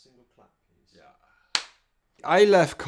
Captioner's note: clap